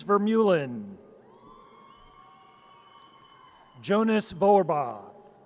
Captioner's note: audience cheers